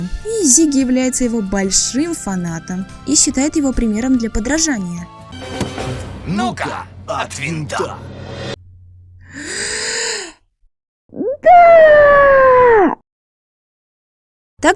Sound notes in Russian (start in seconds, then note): 9.2 вдох